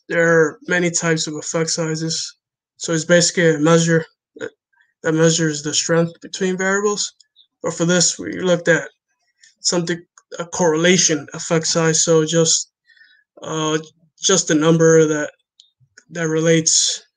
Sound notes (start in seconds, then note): none